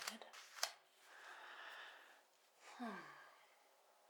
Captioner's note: sigh